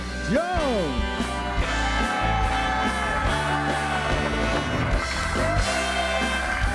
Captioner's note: upbeat music; audience cheering